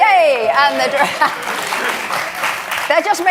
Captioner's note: cheers from the audience